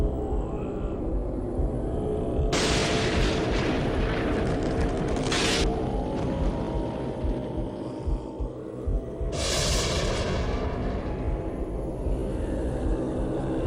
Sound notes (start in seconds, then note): 7.6 thunder crashes